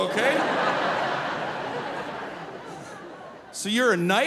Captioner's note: audience laughing